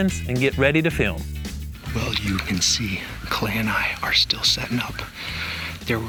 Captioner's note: whispering